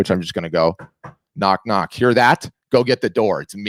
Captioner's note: knuckles rapping